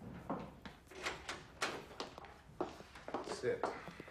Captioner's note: door opening